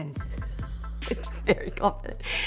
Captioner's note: laughs